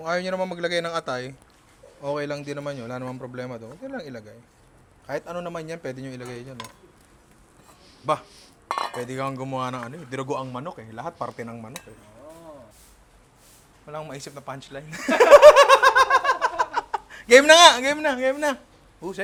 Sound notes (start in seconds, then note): 14.9 laughter